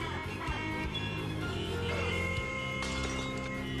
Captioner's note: honking